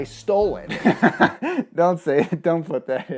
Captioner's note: laughing